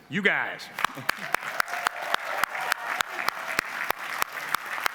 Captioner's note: applause